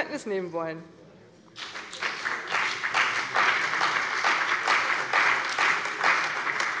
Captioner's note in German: Beifall bei der CDU und dem BÜNDNIS 90/DIE GRÜNEN